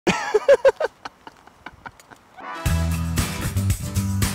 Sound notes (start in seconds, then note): 0.0 laughter